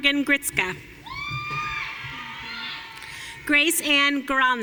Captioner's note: audience cheering